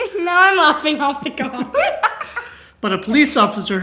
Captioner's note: laughing